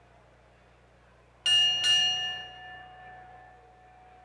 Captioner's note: bell ringing